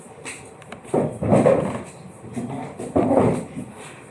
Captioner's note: the seats scratch the floor